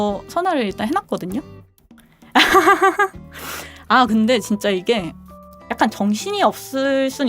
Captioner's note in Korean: 웃음